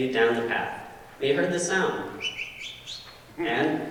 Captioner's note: bird whistle